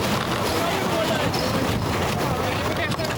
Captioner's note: wind whooshing